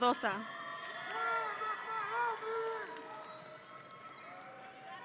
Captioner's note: audience cheering